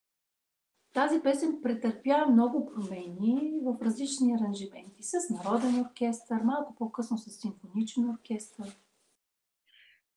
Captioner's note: foreign Language followed by English Interpreter